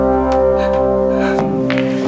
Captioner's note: door closes